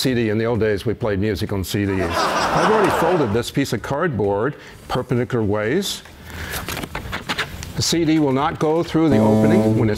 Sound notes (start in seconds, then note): 1.9 laughter